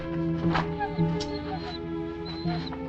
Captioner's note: dog whimpers